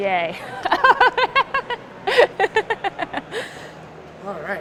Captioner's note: laughing